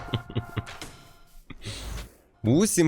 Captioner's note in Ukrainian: сміх